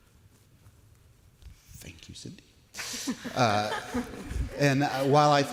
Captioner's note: light laughter from panelists